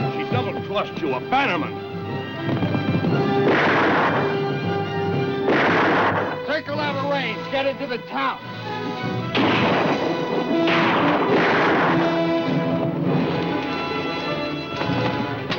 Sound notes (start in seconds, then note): 5.8 dramatic music; 7.4 guns firing